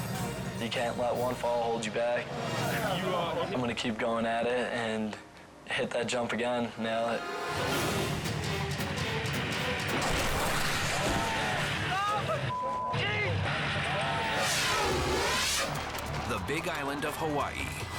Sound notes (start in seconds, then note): 7.0 dramatic music; 12.5 beep